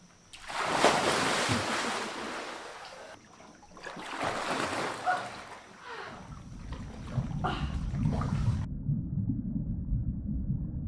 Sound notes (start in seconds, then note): 0.0 nature Sounds; 7.3 nature Sounds